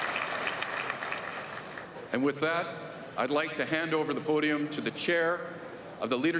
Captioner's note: applause